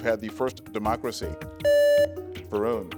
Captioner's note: buzzer beeps